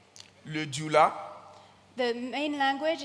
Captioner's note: continues in French